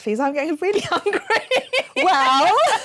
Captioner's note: laughter